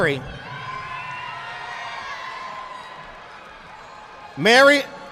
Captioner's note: audience applauding